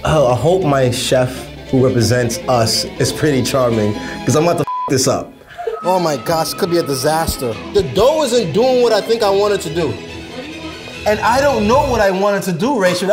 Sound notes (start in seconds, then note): 5.5 beep